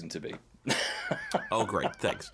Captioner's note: laughing